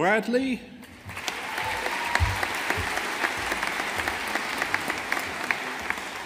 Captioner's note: audience applauding